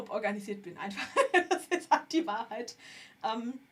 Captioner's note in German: gelächter